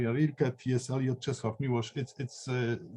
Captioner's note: speaking in a foreign language